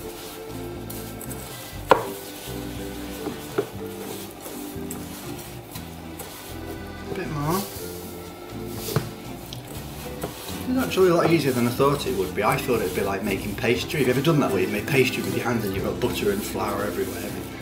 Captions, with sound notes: (Squishing sounds) actually it's a lot easier than I thought it would be. I thought it'd be like making pastry ever done that made pastry with butter & flour